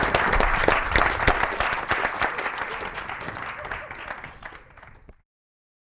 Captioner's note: applause